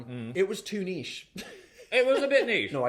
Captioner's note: laughs